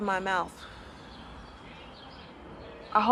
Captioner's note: exhales